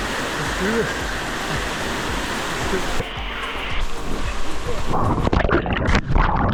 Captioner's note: water sounds